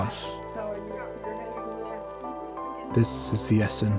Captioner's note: family talking